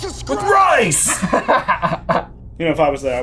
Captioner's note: laughing